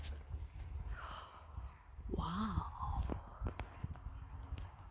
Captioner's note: gasps